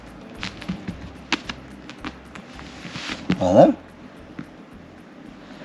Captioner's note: tapping chair